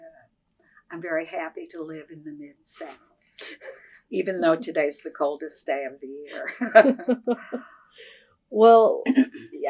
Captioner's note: laughter